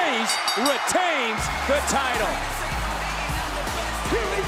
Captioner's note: bell rings